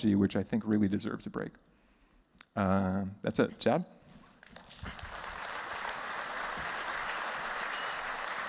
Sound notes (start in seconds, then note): 4.4 applause